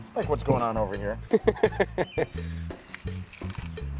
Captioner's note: laughs